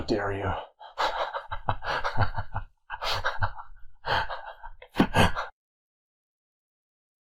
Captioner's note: chuckles